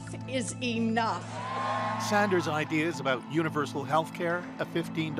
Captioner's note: cheers and Applause